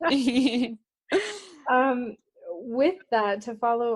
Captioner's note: laughter